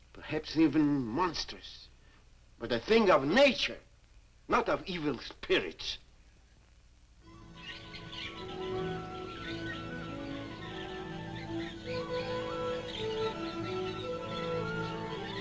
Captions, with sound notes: perhaps even monstrous, but a thing of nature, not of evil spirits! (birds chirping) (pleasant orchestral music)